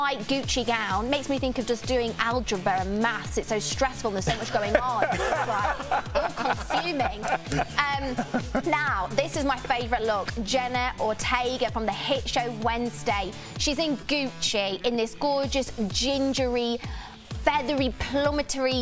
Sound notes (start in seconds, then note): 9.4 laughter